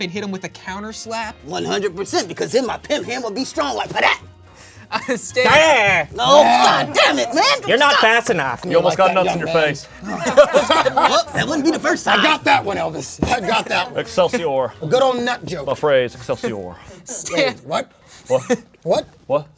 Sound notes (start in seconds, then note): 5.0 Mr. Peanut yells; 10.1 group laughs